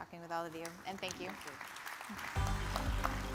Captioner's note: audience claps; upbeat music